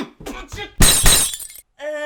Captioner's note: krasch!